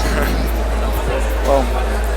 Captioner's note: laughs